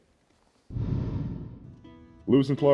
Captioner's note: wind whooshes